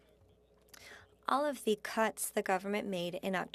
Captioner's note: speaking French